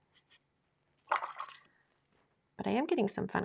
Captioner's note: water sloshing